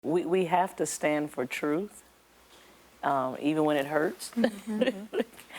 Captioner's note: laughs